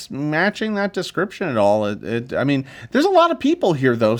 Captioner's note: none